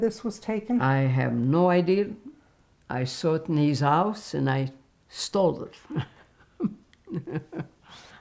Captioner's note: laughing